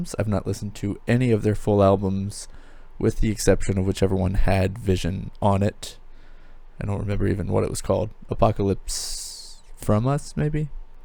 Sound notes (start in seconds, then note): none